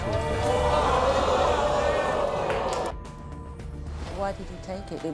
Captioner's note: audience groans